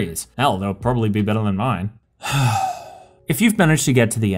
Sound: sigh

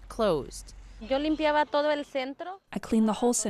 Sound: speaking in foreign language

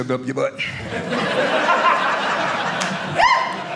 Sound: audience laughing

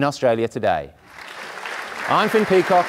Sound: audience applauding

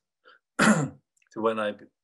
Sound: clears throat

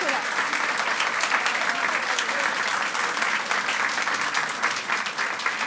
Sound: audience applauds; audience continues to applaud

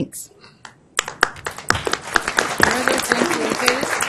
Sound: applause

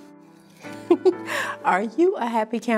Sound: laughter

